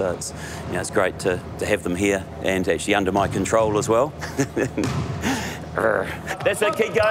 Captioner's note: laughs